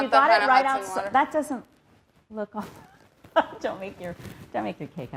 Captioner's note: laughs